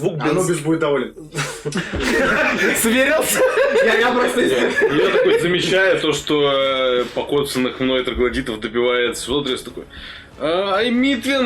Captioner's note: laughing